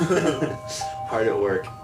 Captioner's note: laughing